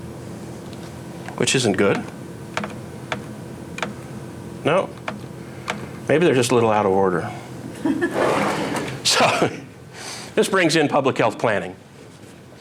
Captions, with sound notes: which isn't good. No. Maybe they're just a little out of order. (audience laughs) So. This brings in Public Health Planning.